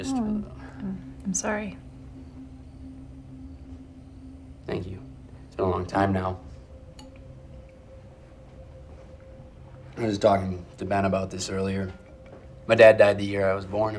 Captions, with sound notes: - Aw, I'm sorry. (tense music) (crickets chirping) - Thank you. It's been a long time now. (tense music) I was talking to Ben about this earlier. My dad died the year I was born